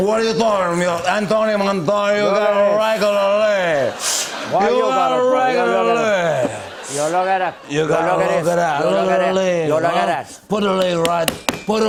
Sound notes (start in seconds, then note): 4.0 sniffles